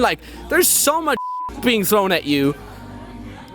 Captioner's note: beep